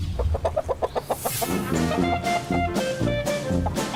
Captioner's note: chickens clucking